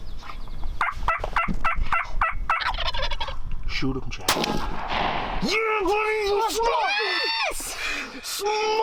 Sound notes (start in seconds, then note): 0.8 turkey call chirping; 2.9 turkey gobbling; 4.2 rifle banging